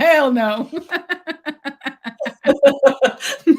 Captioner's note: laughs